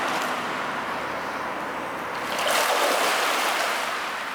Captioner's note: flow of water